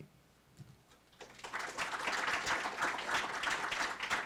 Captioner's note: applause